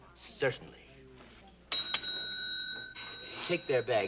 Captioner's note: rings bell